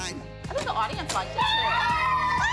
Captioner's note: cheering